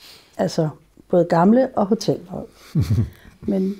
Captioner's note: chuckles